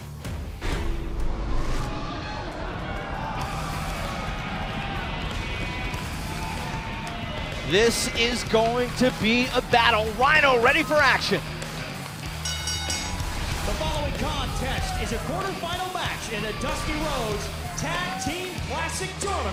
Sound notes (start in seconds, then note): 15.1 bell ringing